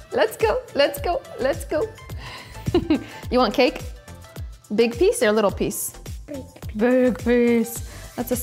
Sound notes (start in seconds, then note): 2.6 chuckles